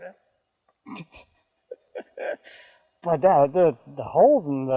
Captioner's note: laughing